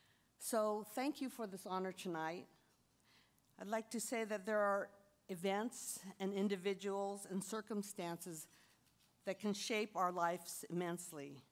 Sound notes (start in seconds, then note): none